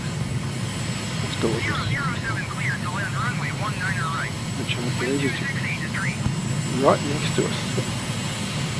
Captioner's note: various radio calls